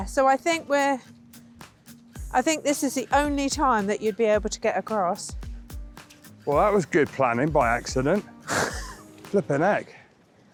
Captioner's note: laughter